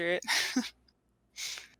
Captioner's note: chuckles